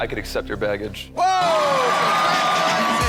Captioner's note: audience cheering